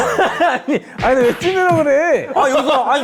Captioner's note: bickering